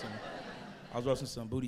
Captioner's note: crowd laughs